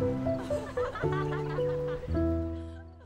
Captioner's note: giggling